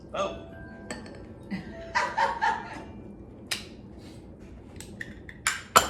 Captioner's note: laughs